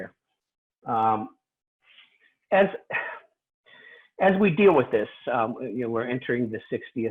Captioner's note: sighs; deep breath